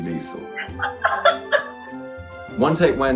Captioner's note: laughs